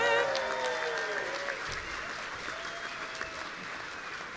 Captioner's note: audience cheering